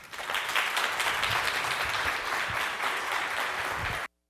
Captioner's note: audience applauding